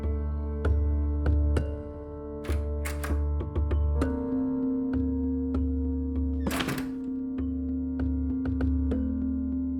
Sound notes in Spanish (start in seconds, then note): 3.5 Sonido al abrir la puerta